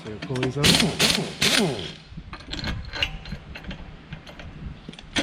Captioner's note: impact wrench whirring